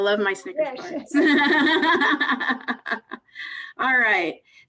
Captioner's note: laughing